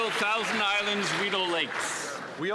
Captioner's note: some Applause